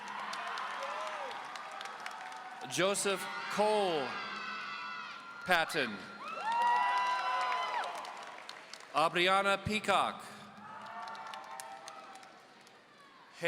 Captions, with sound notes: (audience cheering) Joseph Cole Patton. (audience cheering) Aubrianna Peacock. (audience cheering)